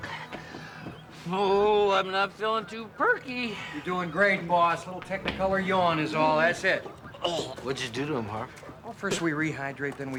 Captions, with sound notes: (sighs) Oh, I'm not feeling too perky. You're doing great, boss. A little Technicolor yawn is all. That's it. (vomiting) What'd you do to him, Harve?